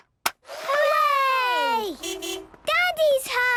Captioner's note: distant beeping